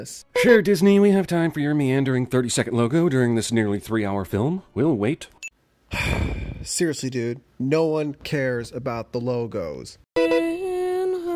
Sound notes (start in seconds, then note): 5.9 sigh